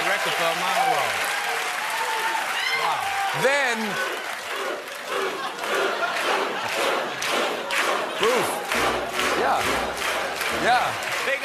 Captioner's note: cheers and applause